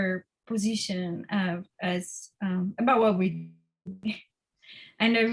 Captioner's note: audio distortion